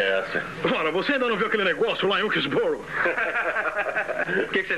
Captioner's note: laughs